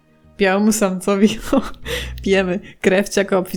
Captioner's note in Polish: śmiech